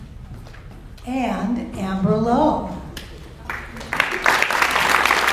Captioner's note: audience applauds